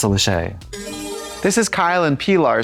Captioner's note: bright chime